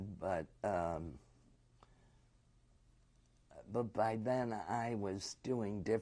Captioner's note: pauses for 3 seconds